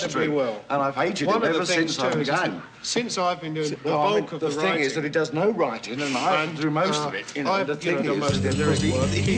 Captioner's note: overlapping chatter